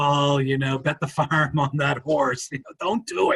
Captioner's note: chuckles